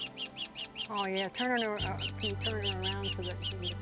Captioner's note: chirping